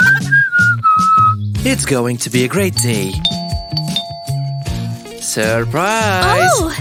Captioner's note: whistles smugly